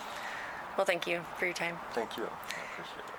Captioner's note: birds chirping